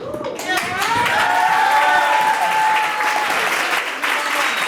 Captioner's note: audience applauds